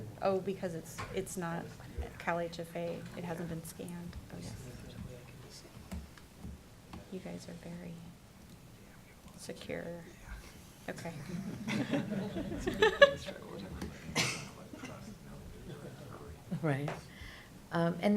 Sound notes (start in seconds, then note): 11.2 laughter